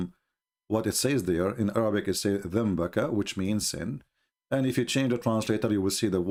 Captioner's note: menyebut perkataan dalam Bahasa Arab